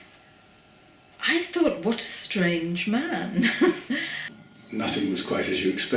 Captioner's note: laughs